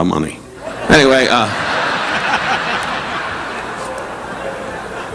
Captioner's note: audience laughing